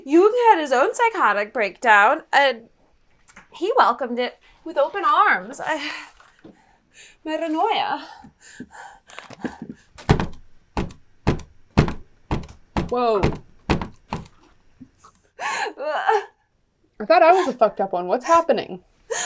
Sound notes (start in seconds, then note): 15.3 sobs